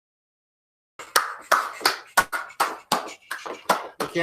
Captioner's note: clapping